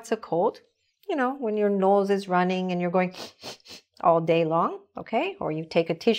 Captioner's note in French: renifler